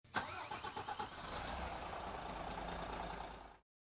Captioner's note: engine starting